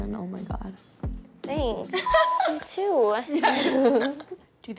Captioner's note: laughs